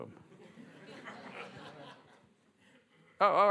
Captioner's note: laughter